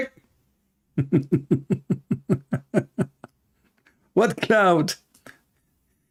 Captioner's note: Ketawa